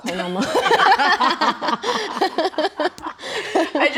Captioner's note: laughing